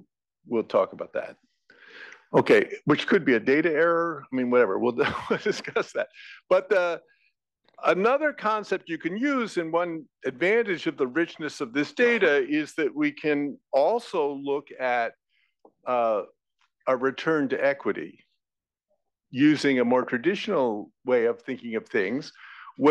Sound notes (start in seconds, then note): 5.0 laugh